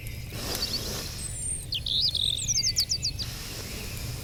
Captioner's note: Taleteller sniffs